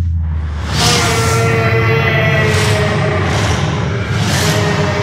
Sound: roaring

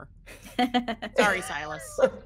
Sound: person laughing

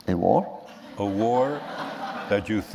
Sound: laughter

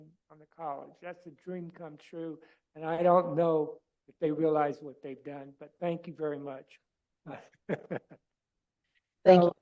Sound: laughter

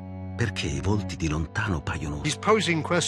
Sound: speaking Italian

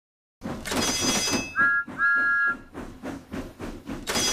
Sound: signals clang and engine whistles

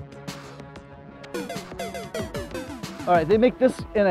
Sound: video game sound effect

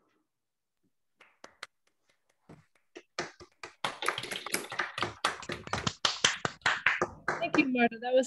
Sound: applause

